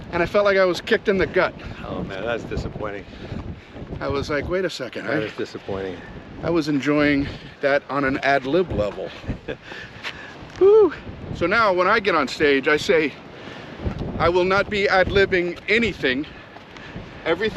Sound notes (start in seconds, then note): 8.8 laughs